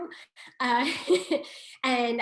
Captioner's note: laughs